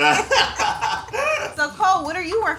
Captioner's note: both laugh